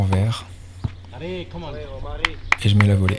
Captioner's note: foreign language